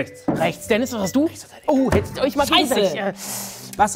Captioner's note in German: Flüstern